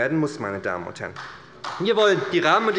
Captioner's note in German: Beifall bei der SPD